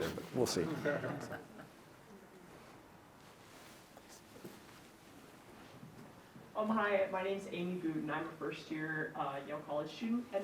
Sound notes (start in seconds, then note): 0.6 audience chuckling; 7.4 faintly speaks